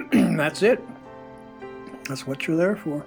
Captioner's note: clears throat